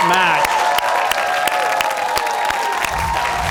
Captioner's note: cheers and applause